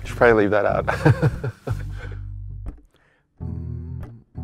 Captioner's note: laughs